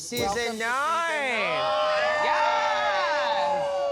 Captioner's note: cheering